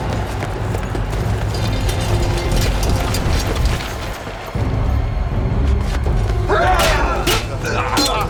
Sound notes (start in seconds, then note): 5.5 shouting